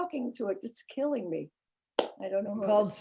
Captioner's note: clapping